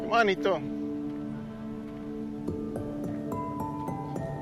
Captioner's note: speaking foreign language